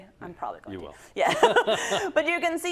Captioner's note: laugh